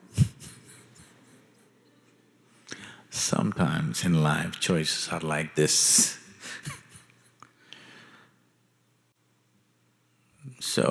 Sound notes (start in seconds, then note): 0.0 laughter; 9.0 laughs